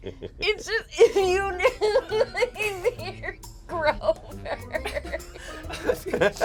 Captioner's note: laughs; group laughs